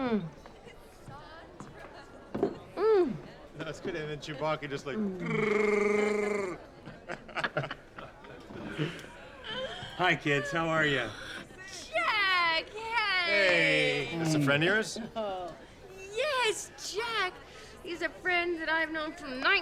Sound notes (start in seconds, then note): 5.0 growls; 7.6 laughing